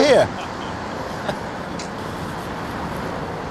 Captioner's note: men laughing